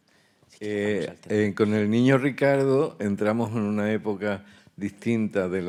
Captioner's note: speaking in Spanish